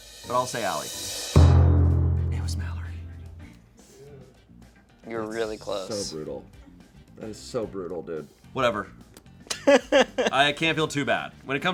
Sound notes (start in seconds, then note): 1.0 deflated music; 9.5 laughs